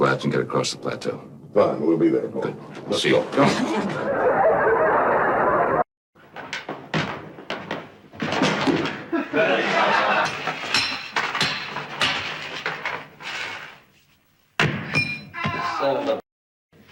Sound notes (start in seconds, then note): 6.3 footsteps thumping; 10.2 hammer clanking